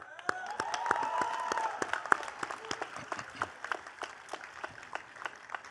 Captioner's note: attendees cheering and clapping